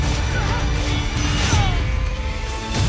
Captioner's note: soldiers yelling and groaning